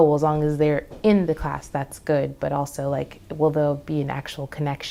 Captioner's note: none